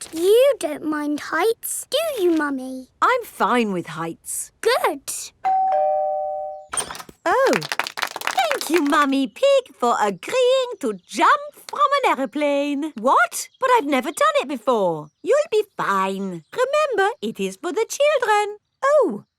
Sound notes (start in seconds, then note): 5.4 doorbell ringing; 7.4 crowd applauding